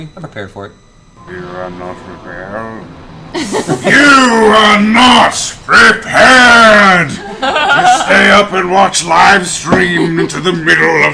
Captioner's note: Illidan voice